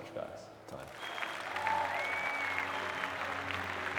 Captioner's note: cheering